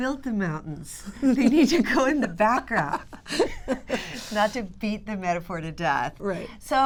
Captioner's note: laughter